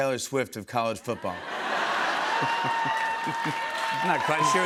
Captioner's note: laughter